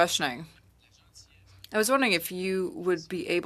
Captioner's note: speaking French